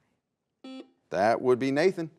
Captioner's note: buzzer buzzes